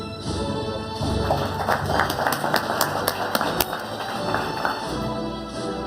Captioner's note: audience applauding